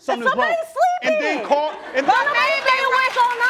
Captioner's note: crowd laughing